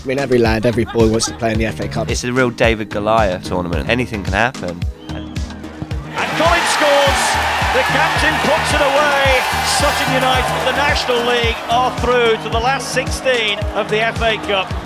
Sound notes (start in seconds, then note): 7.1 cheers